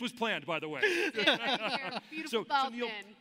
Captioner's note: laughs